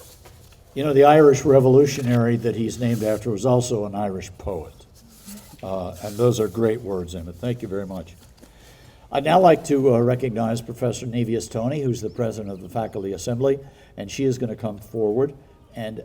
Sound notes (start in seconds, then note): none